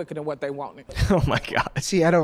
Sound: chuckles

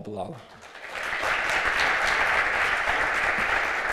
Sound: applause

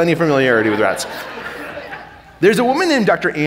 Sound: audience laughing

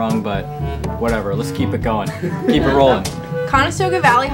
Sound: laughter

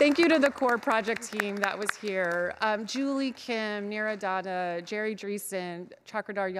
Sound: clapping

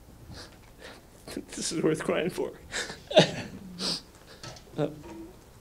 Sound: sniffles

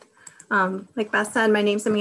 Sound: clicking

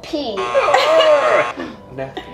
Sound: buzzer buzzing

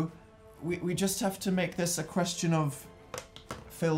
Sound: plastic noise

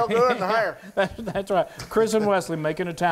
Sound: laugh

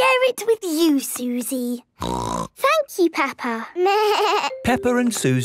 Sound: snorting; bleating

